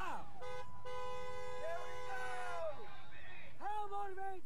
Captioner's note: car honking